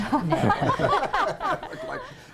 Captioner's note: laughter